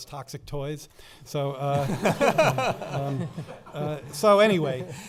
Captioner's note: laughing